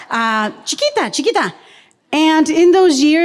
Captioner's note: speaks in foreign language